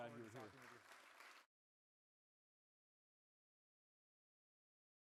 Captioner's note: audience clapping